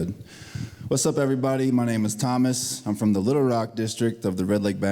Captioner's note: speaking Ojibwe